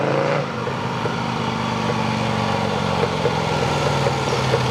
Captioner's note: motorbike engine rattling